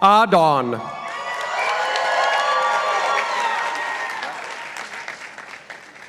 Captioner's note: participants applauding